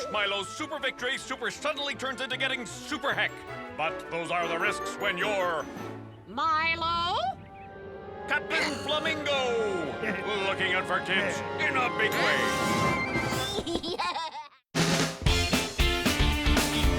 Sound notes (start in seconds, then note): 13.6 Milo laughs; 15.3 upbeat music